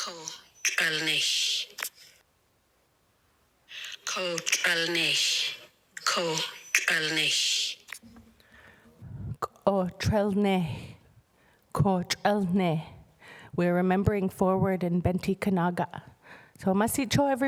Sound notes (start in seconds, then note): 7.8 speaking indigenous language